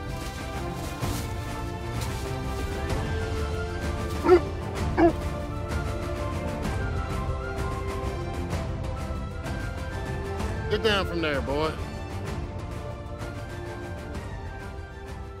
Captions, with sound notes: (Willamina barking) (upbeat music) Get down from there boy. (upbeat music)